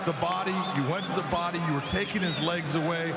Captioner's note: cheers and applause